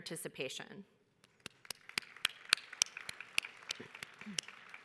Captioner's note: audience applauds